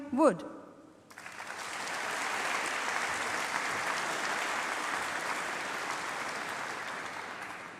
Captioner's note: applause